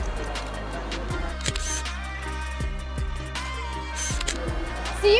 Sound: camera shutter sound

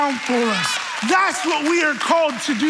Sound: audience cheering

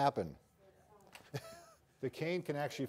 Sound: chuckles

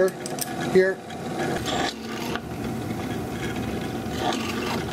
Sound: machinery sounds

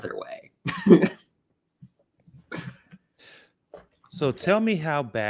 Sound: laughs

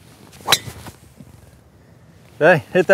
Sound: club smacks

